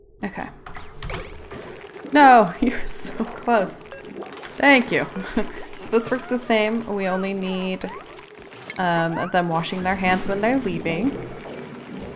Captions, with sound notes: Okay... No you're so close! Thank you *laughs* So this works the same, we only need um of them washing their hands when they're leaving.